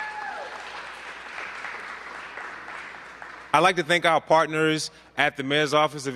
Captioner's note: applause